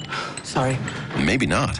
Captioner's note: SFX: glasses clanking